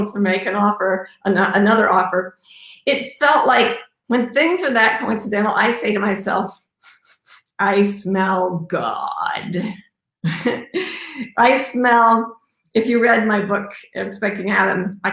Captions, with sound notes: to make an offer, another offer, it felt like when things are that coincidental, I say to myself (sniffs) I smell God. (laughs) I smell, if you read my book "expecting Adam",